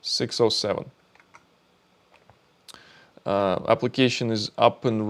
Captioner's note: keyboard clicking